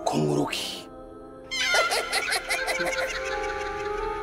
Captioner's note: eerie laughter